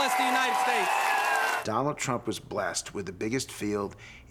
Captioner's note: audience cheering